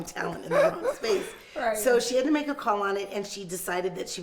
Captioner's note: laughs